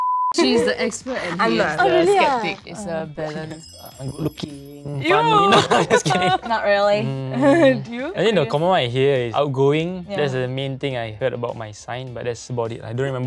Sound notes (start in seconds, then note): 5.2 awkward laughs